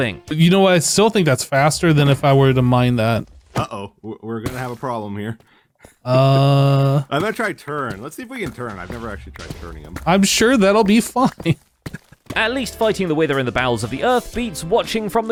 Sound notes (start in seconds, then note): 11.8 nervous laugh